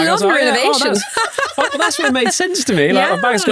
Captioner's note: all laughing